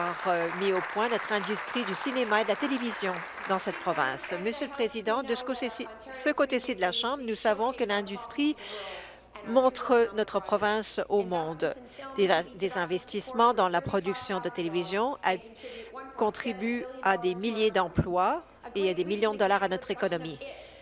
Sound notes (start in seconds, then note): 6.4 applause